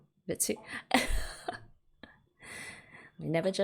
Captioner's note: laughs